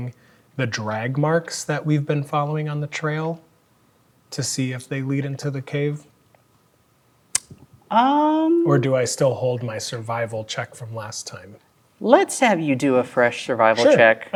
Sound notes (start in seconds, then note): 7.3 clicks tongue